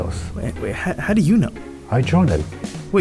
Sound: voiceover

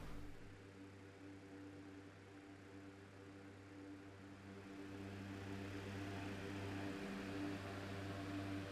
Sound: fans continue to blow

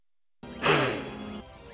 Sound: angelic sniff

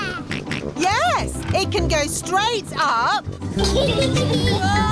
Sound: snorts; kids giggling

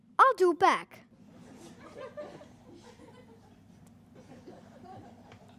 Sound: giggling

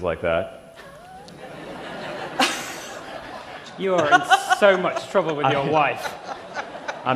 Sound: laughter

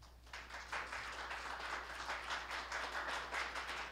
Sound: applause

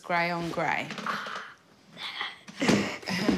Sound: chuckles

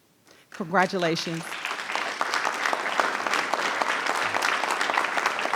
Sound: audience applauding

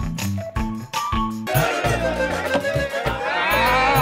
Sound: crowd cheering

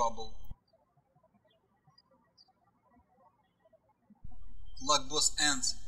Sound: birds chirping

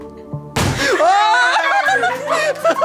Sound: balloon pops; cheering and laughing

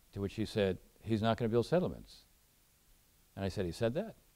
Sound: none

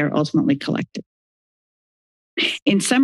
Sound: silence

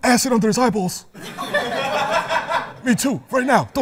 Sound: laughter

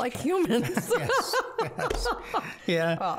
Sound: both laughing

